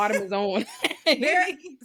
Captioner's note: laughing